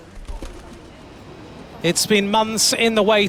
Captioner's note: wings flap